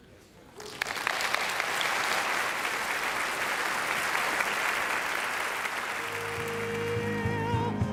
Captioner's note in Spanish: aplauso